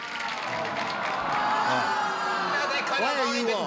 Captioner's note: oohing